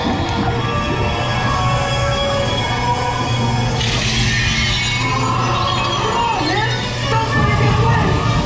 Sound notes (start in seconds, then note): 3.8 glass shatters